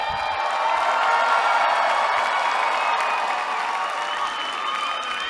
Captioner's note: cheering